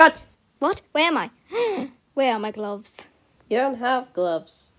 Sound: gasps

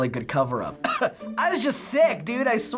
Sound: feigned cough

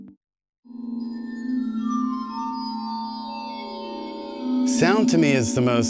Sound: melodic ringing

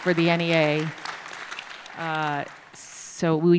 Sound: applause

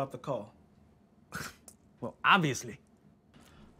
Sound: scoffs

